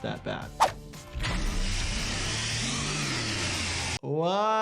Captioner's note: blade whirring